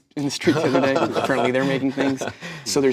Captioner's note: group laughs